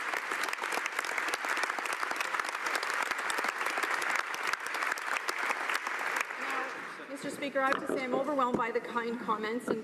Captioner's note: applause